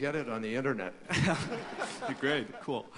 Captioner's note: laughter